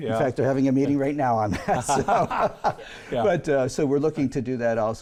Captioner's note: laughs